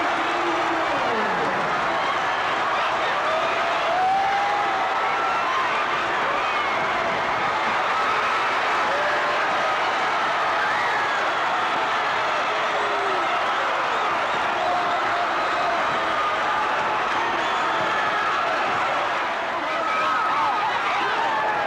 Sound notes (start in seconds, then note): 1.4 audience roaring; 19.3 audience chattering